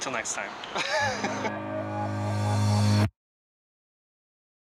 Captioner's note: laughing